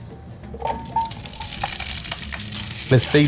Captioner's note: food sizzling